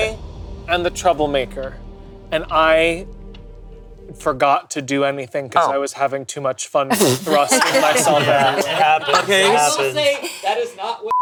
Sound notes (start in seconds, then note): 6.9 group laughing